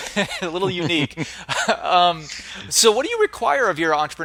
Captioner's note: laughter